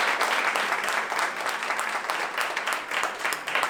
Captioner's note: applause